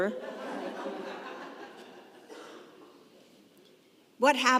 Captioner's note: congregation laughing